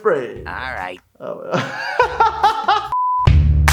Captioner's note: laughs; upbeat drums and whistling